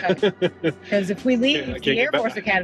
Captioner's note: chuckling